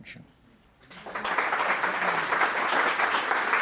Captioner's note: audience applauds